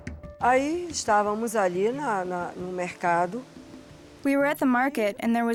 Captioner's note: speaking Portuguese